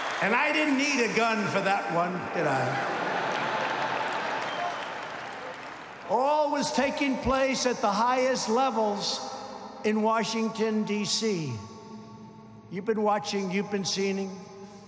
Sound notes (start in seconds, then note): 0.0 applause; 2.7 laughter